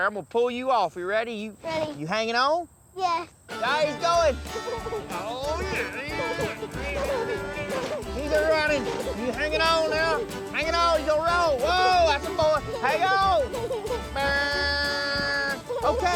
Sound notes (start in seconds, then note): 4.5 giggling; 12.8 mimics buzzer sound